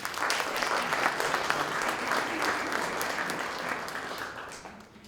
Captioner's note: applause